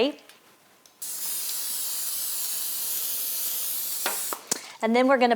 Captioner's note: spray hissing